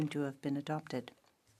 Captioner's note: speaking French